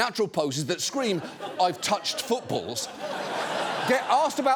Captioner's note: audience laughing